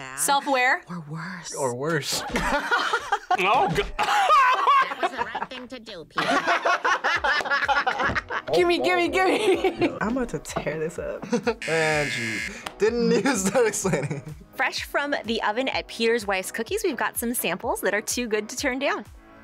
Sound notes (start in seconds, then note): 2.2 laughs; 6.2 both laugh; 9.2 chuckles